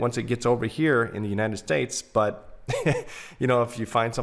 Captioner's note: chuckles